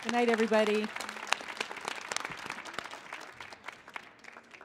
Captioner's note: audience applauding